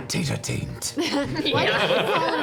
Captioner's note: laughter